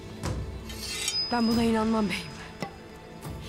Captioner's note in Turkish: Kılıç sesi